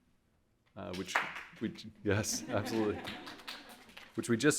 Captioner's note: audience clapping